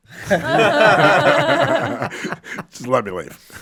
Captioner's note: all laughing